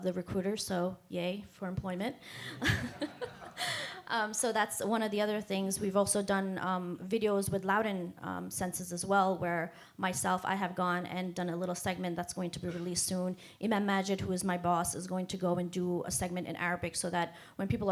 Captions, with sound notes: RECRUITERS, SO YAY FOR EMPLOYMENT. [ LAUGHTER ] SO THAT'S ONE OF THE OTHER THINGS. WE'VE ALSO DONE VIDEOS WITH LOUDON CENSUS AS WELL WHERE MYSELF, I HAVE GONE AND DONE A LITTLE SEGMENT THAT'S GOING TO BE RELEASED SOON. MY BOSS IS GOING TO GO AND DO A SEGMENT IN ARABIC SO WHEN PEOPLE